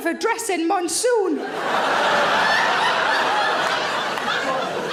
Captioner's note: audience laughing